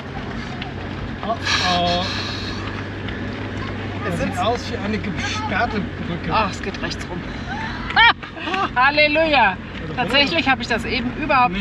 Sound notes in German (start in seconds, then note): 7.7 gelächter